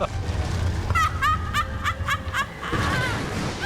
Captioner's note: laughing